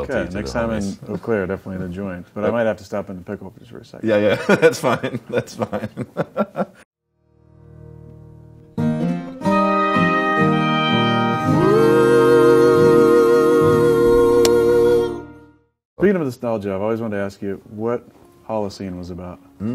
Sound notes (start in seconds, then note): 6.8 laughs; 7.3 bluesy music; 14.1 clapboard clicks